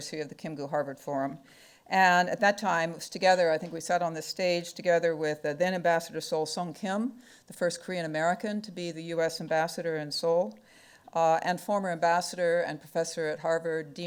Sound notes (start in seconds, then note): none